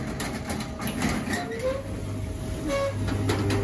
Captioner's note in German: Metallisches Quietschen